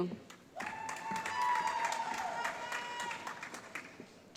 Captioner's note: applause